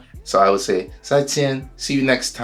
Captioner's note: speaks in foreign language